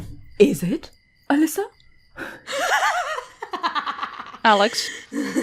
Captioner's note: laughs